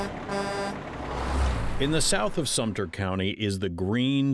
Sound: truck horn

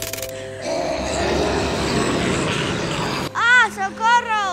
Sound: zombies growling

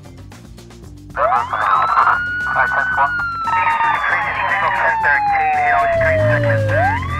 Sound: siren blaring; car engine revving

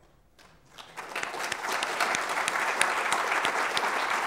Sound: applause

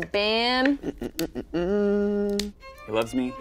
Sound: humming

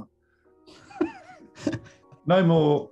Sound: giggling

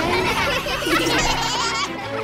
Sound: laughing

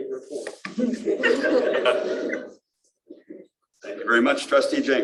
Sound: laughter

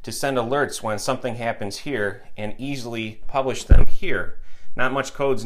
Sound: microphone bumped

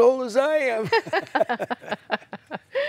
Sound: laughter

